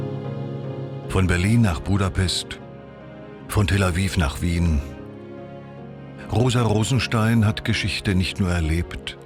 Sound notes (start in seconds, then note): 1.2 German speaking continues